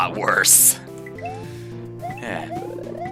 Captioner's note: breathing